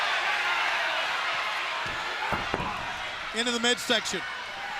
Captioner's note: crowd cheering